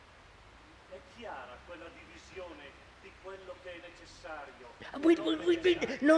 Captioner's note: Italian